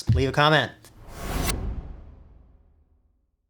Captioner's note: whoosh